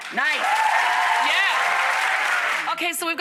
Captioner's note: crowd cheering